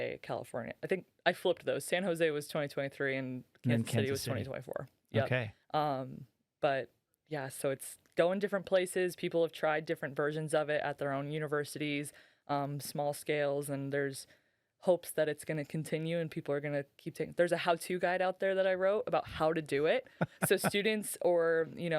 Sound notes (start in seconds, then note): 20.2 laughing